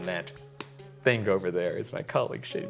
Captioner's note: hand slapping